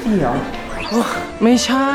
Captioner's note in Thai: ถอนหายใจ